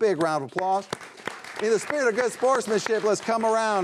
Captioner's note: audience applauding